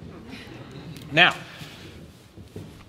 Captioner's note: laughter